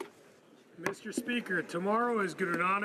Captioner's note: speaking French